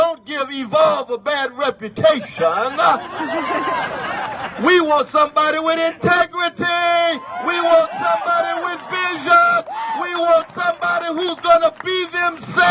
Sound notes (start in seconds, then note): 2.0 laughs and cheers; 9.8 cheers